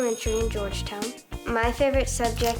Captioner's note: bell rings